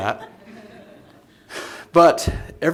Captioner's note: laughter